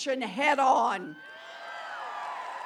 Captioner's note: applause